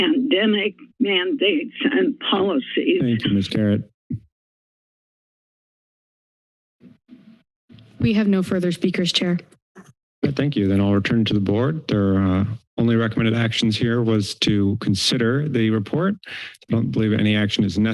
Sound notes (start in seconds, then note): 4.7 silence